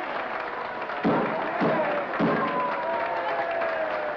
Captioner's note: crowd cheers and applauds; gavel bangs; crowd cheers and applauds